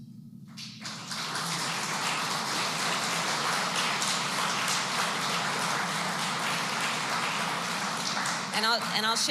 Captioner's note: applause